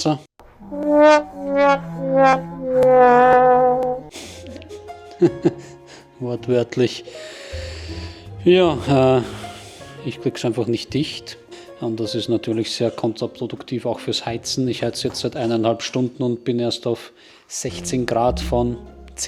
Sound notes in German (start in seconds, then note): 5.0 gelächter